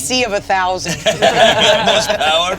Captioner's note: all laughing